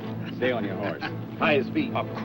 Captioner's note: chuckles